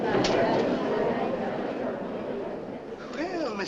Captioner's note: crowd murmurs